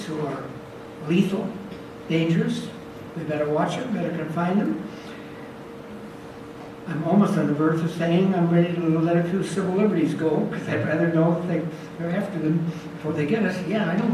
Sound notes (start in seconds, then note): none